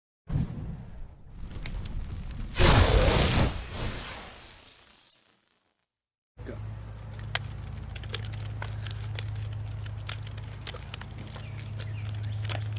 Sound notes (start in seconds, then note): 1.2 sparks; 2.6 explosion